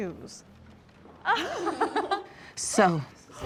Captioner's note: laughter